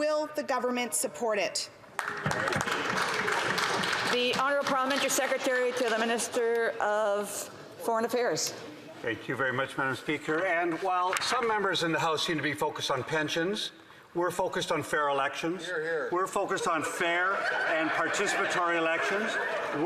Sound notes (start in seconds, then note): 5.3 applause